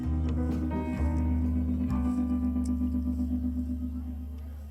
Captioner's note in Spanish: none